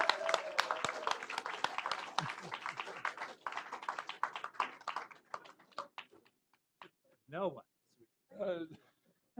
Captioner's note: applause